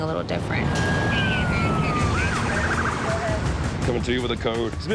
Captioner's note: sirens